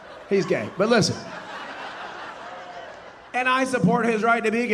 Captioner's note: audience laughing